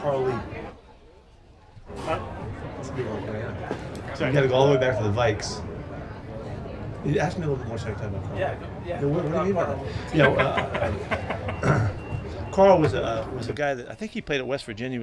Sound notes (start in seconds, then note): 10.0 reporter laughing